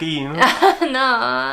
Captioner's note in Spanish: Risas